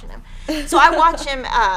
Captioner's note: laughing